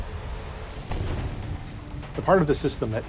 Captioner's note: explosion blasts